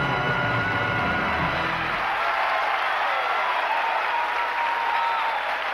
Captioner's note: cheering and applause